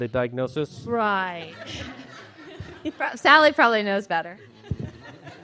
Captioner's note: laughter